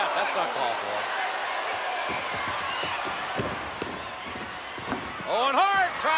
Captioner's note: spectators cheering